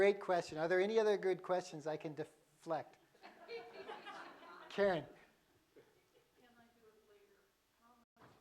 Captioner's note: laughter